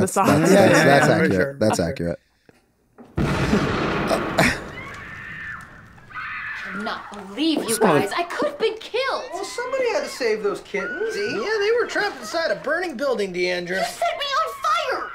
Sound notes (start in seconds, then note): 3.1 explosion booming; 4.3 Dee screaming